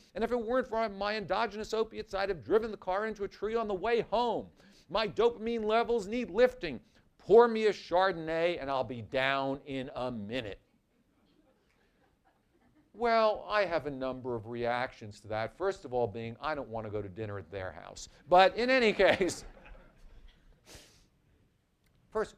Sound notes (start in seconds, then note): 11.3 laughter; 18.8 laughter